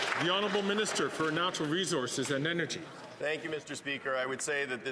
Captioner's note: some Applause